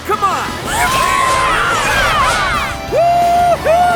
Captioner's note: cheering